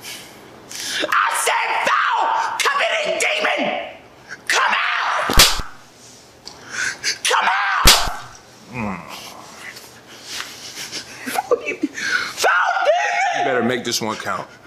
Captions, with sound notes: I said, foul coveting demon... come out! (slap) Come out! (slap) (Grunt) Foul demon... Foul demon. You better make this one count!